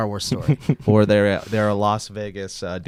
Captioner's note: laughs